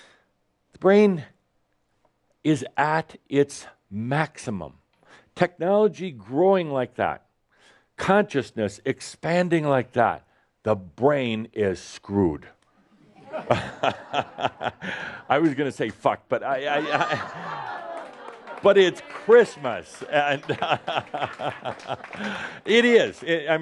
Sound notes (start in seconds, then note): 13.0 laughter; 16.5 more laughter and applause; 19.4 Adamus laughs